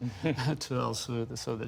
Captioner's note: laughter